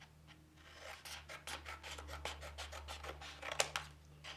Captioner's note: scissors snipping